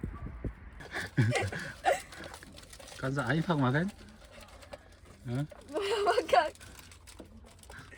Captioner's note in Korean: 웃음